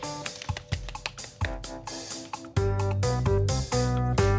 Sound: Poppy clapping

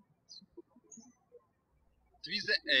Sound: birds chirping

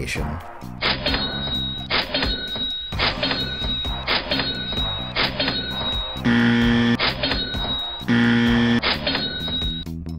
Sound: cash register "ka-ching" sounds

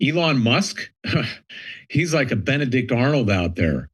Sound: laughs

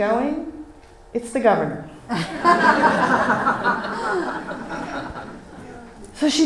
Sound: laughs from audience

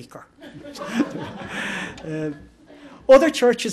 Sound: laughter

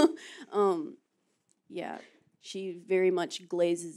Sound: laughs

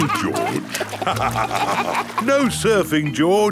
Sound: both laugh

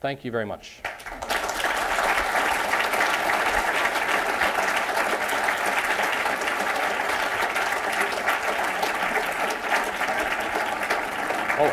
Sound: applause

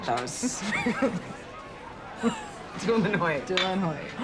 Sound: both laugh

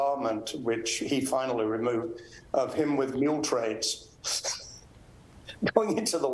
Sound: laughs

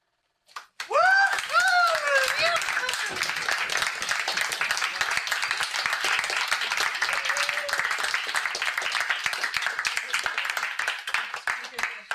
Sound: audience cheers and applause

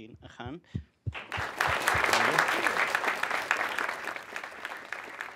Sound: applause

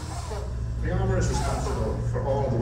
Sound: voiceover

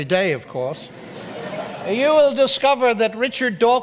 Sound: audience laughs

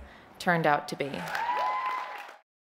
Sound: cheering

